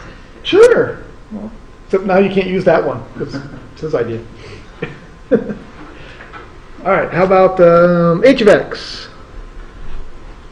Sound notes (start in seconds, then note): 4.7 laughter